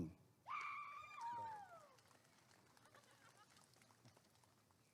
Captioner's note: applause and cheering